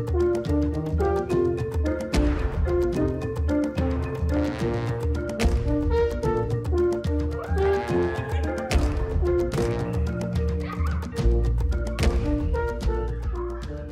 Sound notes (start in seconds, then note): 3.8 light-hearted music continues; 7.3 children cheering; 10.5 children laughing